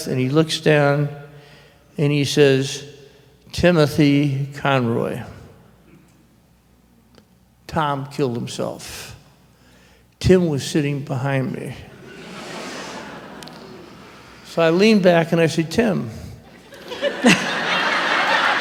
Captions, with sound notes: And he looks down, and he says, "Timothy Conroy." Tom killed himself. Tim was sitting behind me. [ muted laughter ] So I lean back, and I say, "Tim--"